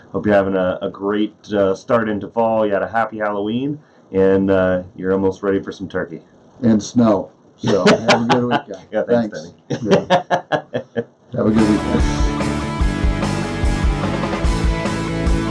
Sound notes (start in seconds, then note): 7.6 laughing; 11.5 rock music